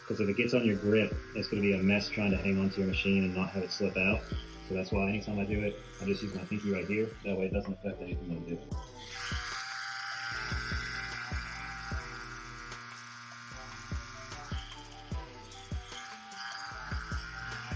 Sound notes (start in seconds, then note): 8.7 tattoo gun buzzing; 9.4 slow groovy music